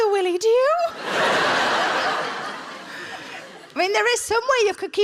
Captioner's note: audience laughs